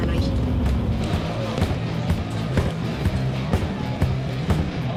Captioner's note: crowd chatter